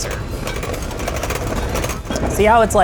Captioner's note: mixer whisks